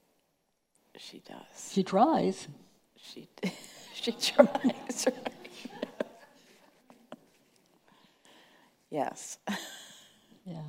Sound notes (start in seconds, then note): 5.7 chuckling